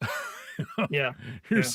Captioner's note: laughing